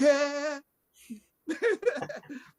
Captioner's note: laughs